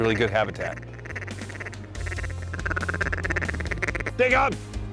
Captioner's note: duck calls